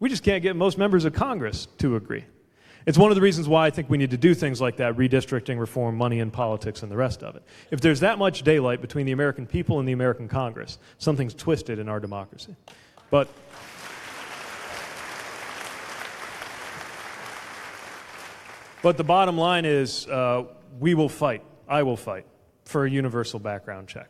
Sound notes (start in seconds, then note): 15.7 applause